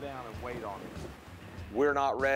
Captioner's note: upbeat country rock music; wind whistling